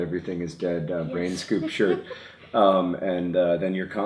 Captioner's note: laughs